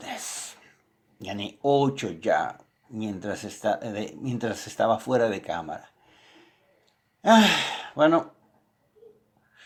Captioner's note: sigh